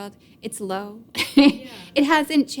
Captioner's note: laughs